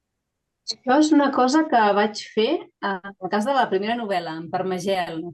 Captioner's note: speaking in Catalan